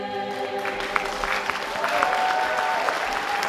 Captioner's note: applause